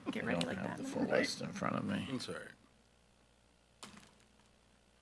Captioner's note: school board chattering